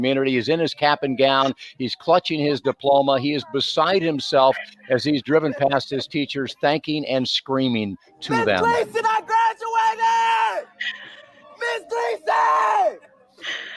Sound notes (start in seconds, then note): 8.5 shouting on top of his voice